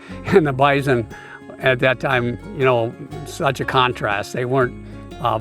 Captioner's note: chuckles